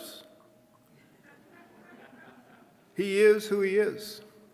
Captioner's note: audience chuckling